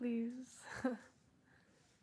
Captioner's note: laughter